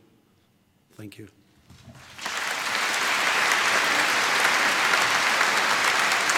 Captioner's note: audience applauds